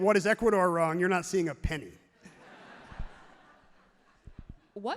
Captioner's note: crowd laughs happily